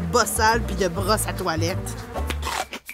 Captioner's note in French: mastication